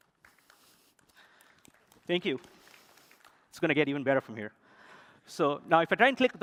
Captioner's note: applause